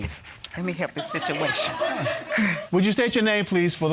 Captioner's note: audience laughing